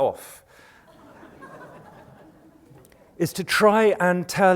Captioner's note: laughter